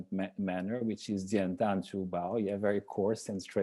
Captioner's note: speaking in a foreign language